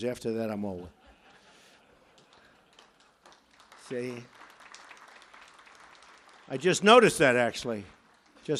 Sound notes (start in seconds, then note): 0.8 laughter; 2.9 applause